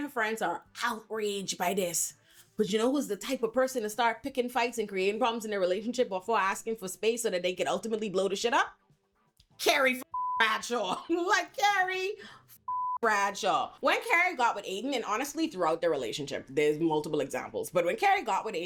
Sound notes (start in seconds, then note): 10.1 beep; 12.6 beep